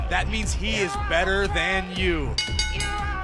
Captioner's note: bell ringing